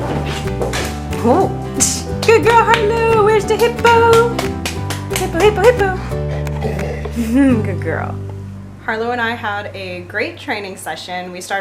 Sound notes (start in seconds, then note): 0.2 ball smacking against wall; 4.1 applauding; 6.0 Harlow, snuffling